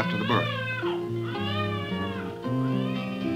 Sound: baby crying

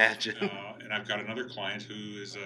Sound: laughing

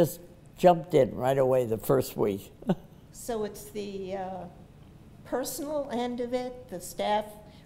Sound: laughs

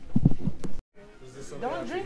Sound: chattering

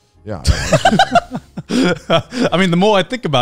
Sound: laughing

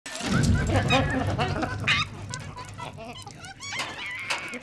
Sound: monkeys squeaking, howling

